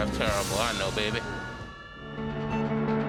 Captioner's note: sirens wailing